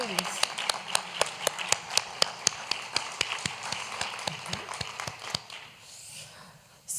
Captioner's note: applause